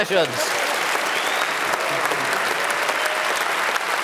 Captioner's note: applause and whistling